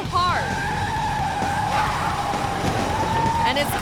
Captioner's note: car screeches